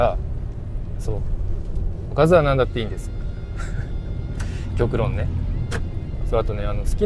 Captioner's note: laughs